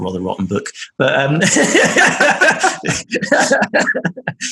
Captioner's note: laughing